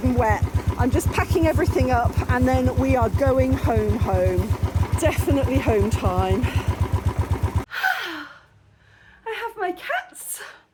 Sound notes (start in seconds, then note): 6.5 bike engine; 7.7 happy sigh